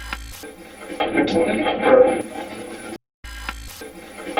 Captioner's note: static playback transmitting; static fizzing